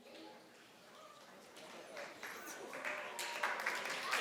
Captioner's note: crowd applauds